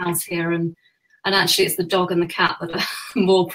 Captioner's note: laughs